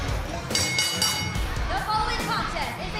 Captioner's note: bell ringing